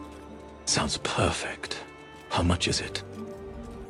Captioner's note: whispers